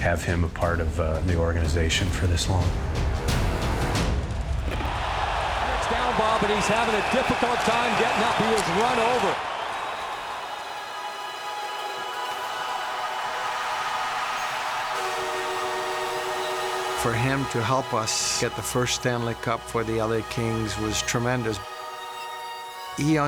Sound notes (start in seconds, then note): 9.9 cheering; 15.2 horn buzzing